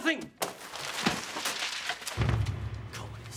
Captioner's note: papers flutter